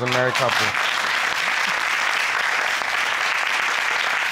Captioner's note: crowd applauding